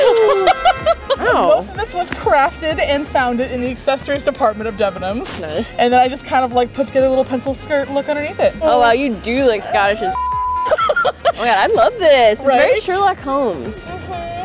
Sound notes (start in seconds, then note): 10.1 beep; 10.6 laughs